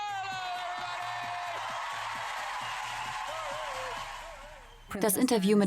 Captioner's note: crowd cheers loudly